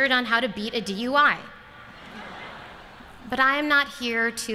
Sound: laughter

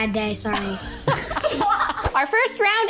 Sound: group laughs

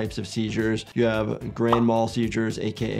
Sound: graphic pops

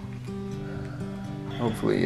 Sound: sighs

